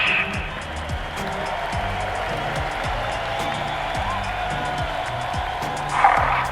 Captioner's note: cheering